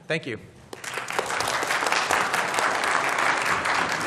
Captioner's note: applause